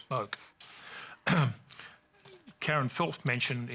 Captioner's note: clears throat